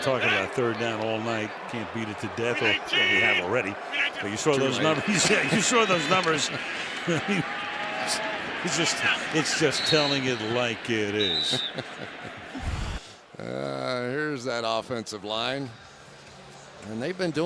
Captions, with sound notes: Well, we have been talking about third down all night. Can't beat it to death or we have already. But you saw those numbers. You saw those numbers. I mean, it's just-- it's just telling it like it is. [whistle blows] [chuckles] Here's that offensive line.